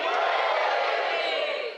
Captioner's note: cheers